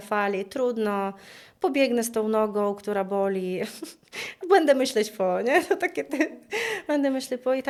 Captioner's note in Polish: śmiech